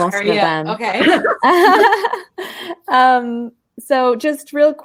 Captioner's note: ladies laughing